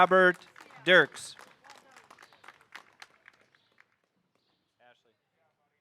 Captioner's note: audience applauding